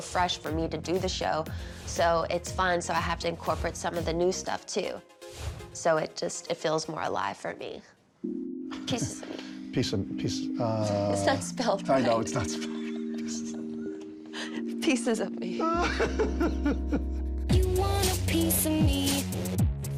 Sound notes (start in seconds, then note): 12.4 both laughing; 15.6 laughing continues